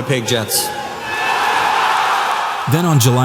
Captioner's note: cheers